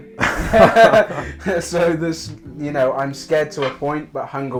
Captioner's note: laughter